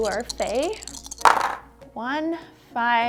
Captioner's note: dice clunking